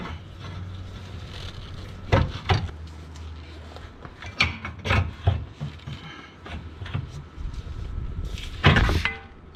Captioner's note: prying noise